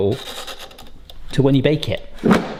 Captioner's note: button clicking